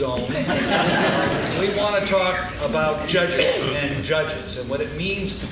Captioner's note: laughing